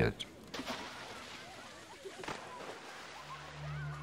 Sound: splashing

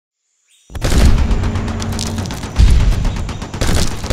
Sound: gunshot and explosion sounds

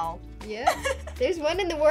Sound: both laugh

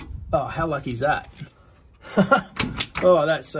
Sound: chuckles

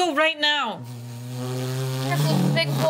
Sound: imitates motor revving

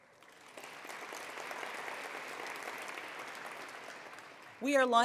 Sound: attendees applauding

